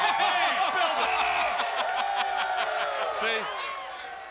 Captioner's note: laughter